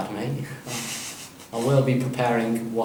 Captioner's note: Arnold chuckles